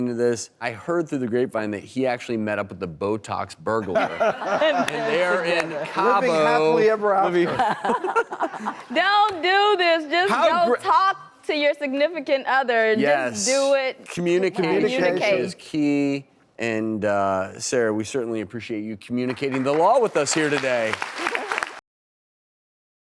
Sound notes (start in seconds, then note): 3.9 laughing; 19.2 applause